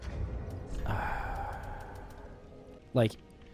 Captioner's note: annoyed sigh